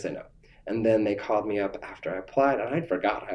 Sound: laughs

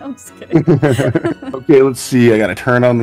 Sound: laughs

